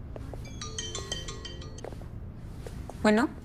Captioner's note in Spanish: Suena celular